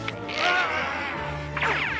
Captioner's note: <i> roaring</i>